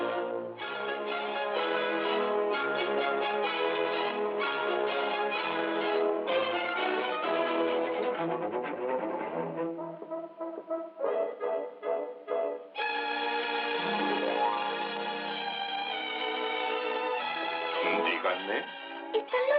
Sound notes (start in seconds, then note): 12.2 doorbell Chiming